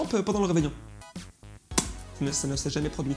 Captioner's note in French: Smack